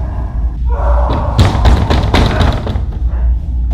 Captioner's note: banging on Walls